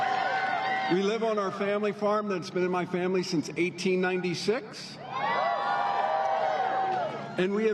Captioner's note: applause